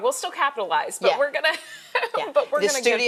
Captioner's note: chuckling